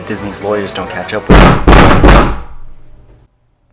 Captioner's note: violent knocking